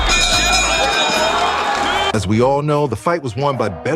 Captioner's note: crowd cheering